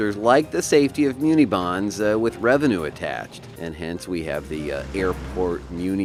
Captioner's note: airplane takes off from airport